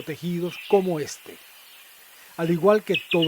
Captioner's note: birds' chirping